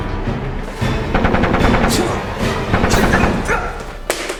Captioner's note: gun firing; Jared grunting